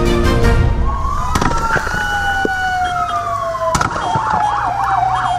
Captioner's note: shots and ambulances